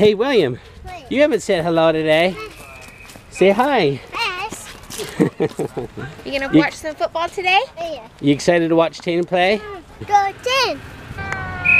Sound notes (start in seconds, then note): 4.9 laughing; 11.2 whistle blowing